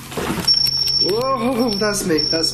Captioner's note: beeping